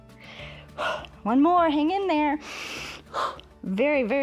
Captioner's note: inhales and exhales